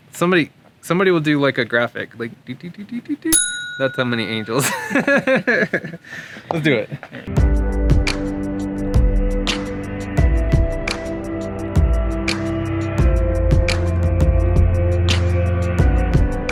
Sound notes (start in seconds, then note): 3.3 bell, Ding!; 4.5 laughing